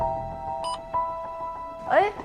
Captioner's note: beep